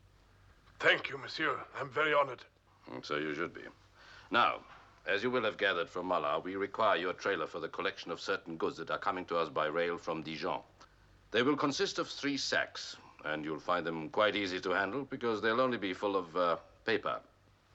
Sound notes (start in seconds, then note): none